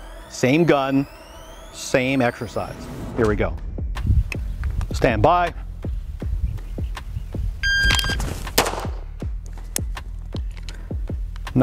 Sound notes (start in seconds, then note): 5.9 gentle upbeat music; 7.6 signal chiming; 8.5 gun firing; 10.3 gun clicking